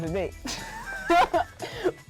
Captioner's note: laughing